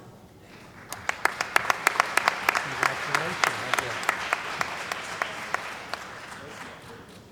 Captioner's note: applause